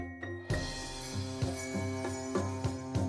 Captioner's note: light chimes